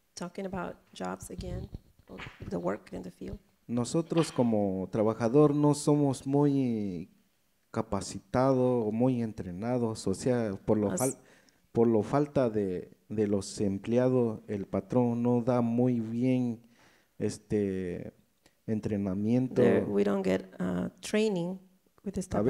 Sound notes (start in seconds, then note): 3.5 speaks in foreign language